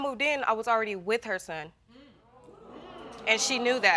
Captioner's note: audience gasping